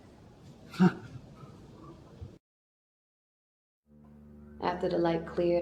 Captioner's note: Essix gasping; slow ominous music